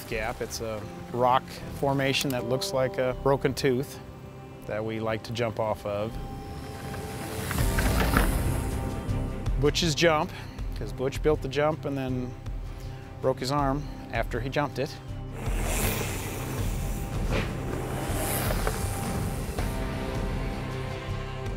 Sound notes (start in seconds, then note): 6.6 bike going off jump; 15.3 wheels whir